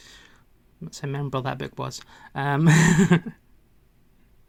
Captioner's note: laughs